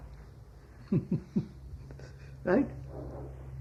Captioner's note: laughs